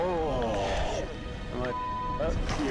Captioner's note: beep